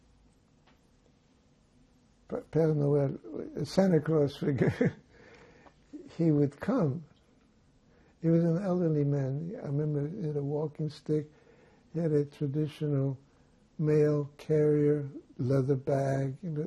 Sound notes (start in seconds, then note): 4.4 laughing